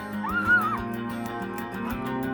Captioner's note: relaxing music; screams